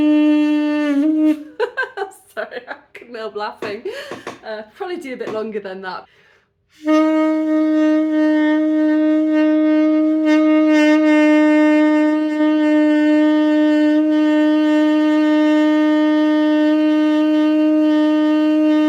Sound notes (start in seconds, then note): 1.2 laughing; 6.7 long note